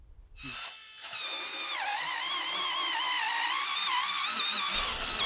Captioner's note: drill spinning